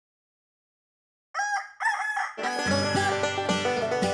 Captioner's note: rooster crowing; banjo playing